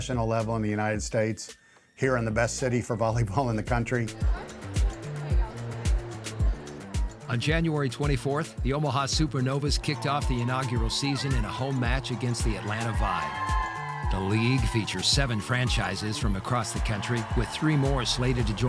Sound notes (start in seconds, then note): 6.5 upbeat music; 13.7 people cheering